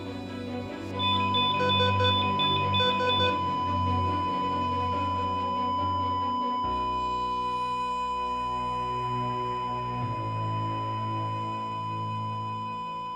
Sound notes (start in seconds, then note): 1.0 heart monitor alarm beeping; 1.1 heart monitor flatlining; 8.6 somber music